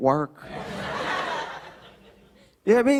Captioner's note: laughter